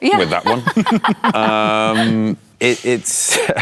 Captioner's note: laughter